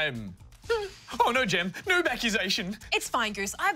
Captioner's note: whimpers